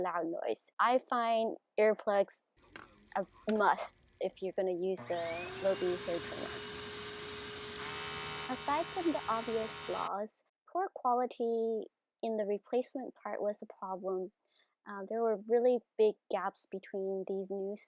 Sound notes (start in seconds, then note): 4.9 switch trimmer on, loud buzzing; 5.0 switch vacuum on, loud vacuum suction